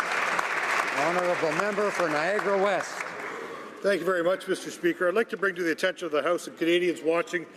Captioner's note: some Applause